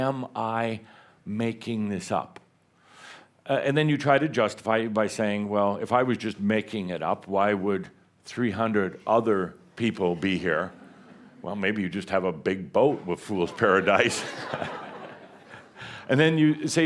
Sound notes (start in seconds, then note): 13.4 laughter